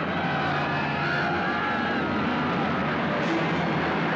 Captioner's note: Gritos continuam